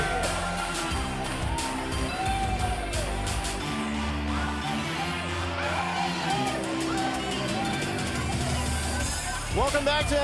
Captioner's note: crowd cheering